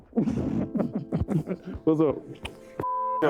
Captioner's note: both laughing